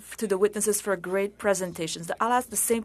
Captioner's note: speaking French